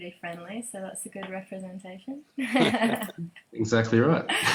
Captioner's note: laughs